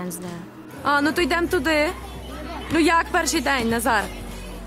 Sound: woman speaks ukrainian

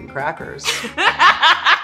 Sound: laughter

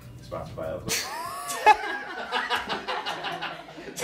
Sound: laughs

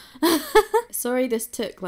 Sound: laughs

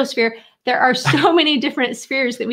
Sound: chuckling

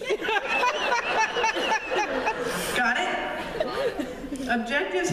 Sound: laughter

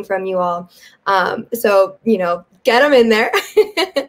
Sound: giggles

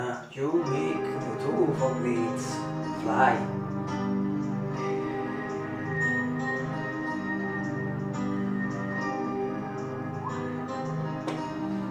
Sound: whistle

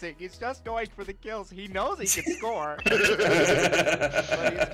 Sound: giggling

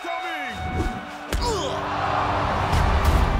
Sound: grunts

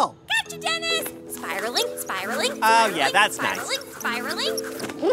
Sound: soundbite of rope reeling continues

